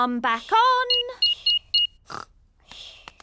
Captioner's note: beeping